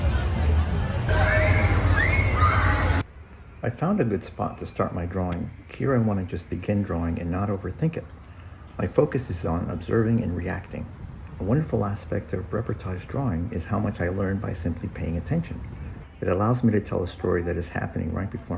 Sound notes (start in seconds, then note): 1.1 screaming